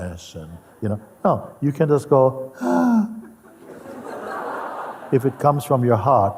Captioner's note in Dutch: imiteert huilen; gelach